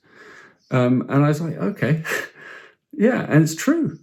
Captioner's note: chuckles